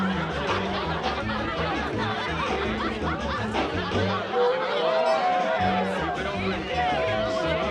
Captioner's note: chatter